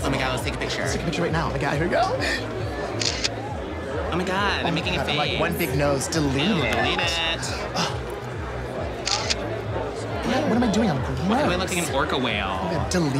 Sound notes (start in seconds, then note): 3.0 camera clicks; 7.7 phone beeps; 9.0 camera clicks